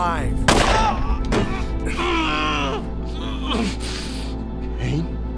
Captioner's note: gunfire popping; Lloyd grunting